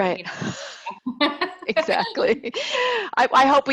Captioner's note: laughter